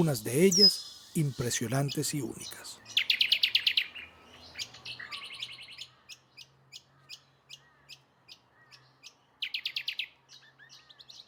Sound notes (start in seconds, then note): 2.6 ambient and birds calls